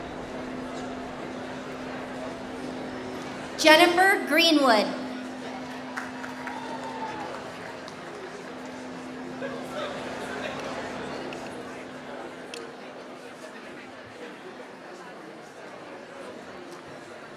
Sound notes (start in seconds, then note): 10.3 applause